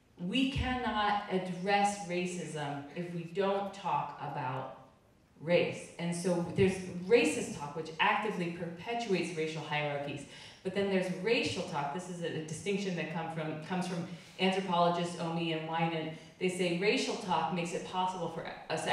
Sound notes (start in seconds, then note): none